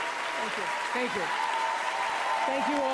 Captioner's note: applause